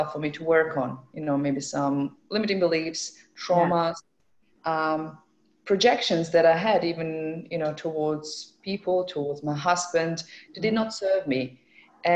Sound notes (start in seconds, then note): none